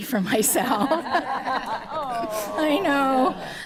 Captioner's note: all laughing